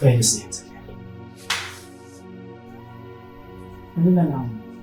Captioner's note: slap